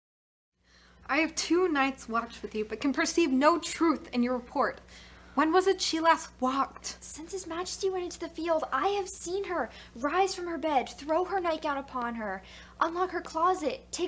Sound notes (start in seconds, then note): none